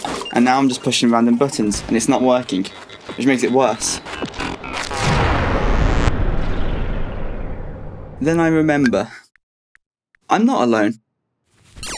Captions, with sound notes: And now I'm just pushing random buttons, and it's not working. It just makes it worse. [game powers down] And then I remember... I'm not alone.